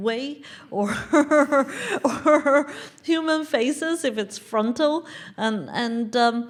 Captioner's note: laugh